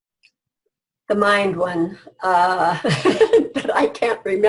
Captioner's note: laughs